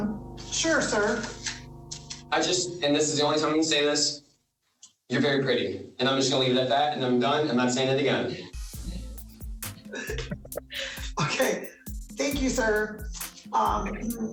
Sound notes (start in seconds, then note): 9.7 laughs